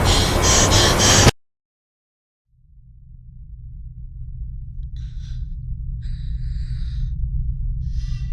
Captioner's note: panicked; slow breaths; gasping